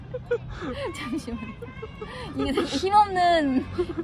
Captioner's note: laughter